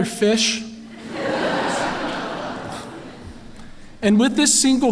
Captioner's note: laughter